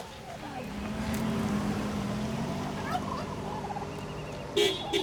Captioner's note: car engine thrumming; honking